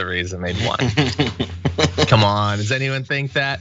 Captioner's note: laugh